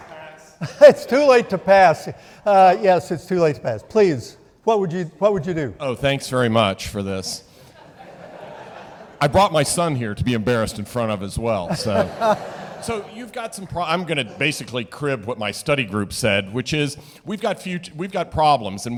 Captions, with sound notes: - Is it too late to pass? - It's too late to pass. Yes, it's too late to pass. Please, what would you do? - Oh, thanks very much for this. (audience laughing) I brought my son here to be embarrassed in front of, as well, so. (audience laughing) So you've got some pro- I'm gonna basically crib what my study group said, which is we've got problems,